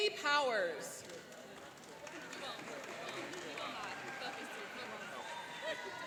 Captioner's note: cheering and applauding